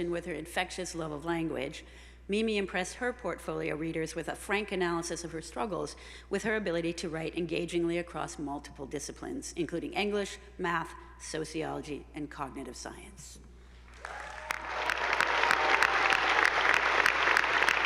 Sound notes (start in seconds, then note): 13.9 attendees applauding